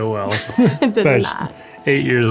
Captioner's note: laughing